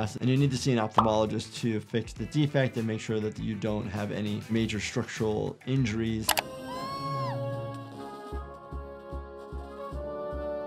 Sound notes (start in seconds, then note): 6.2 mouse clicks; 6.6 giggles screams; 7.9 heroic music